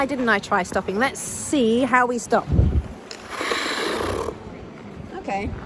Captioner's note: blade noise